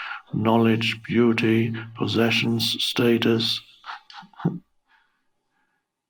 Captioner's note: giggles